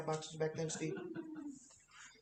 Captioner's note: laughter